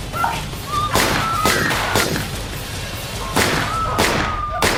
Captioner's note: gun firing